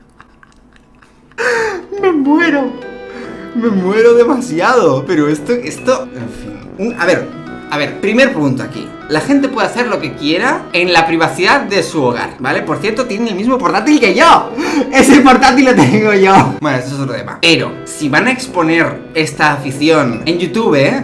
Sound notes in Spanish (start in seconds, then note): 1.4 suspiro; 3.1 suspiro; 14.6 suspiro; 15.8 risa